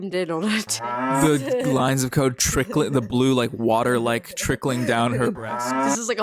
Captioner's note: moo!